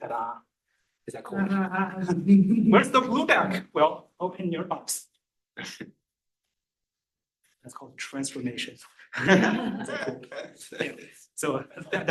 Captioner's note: laughter